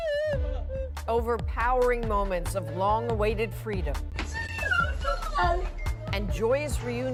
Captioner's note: crying